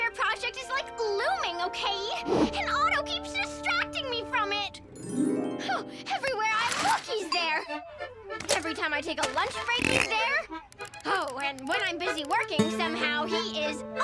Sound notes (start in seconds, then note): 4.8 dreamy harp; 8.3 scoffs